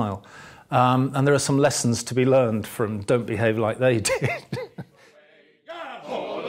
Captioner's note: laughter